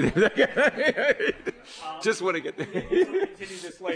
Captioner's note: laughs